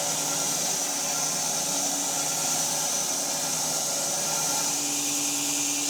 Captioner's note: saw continues whirring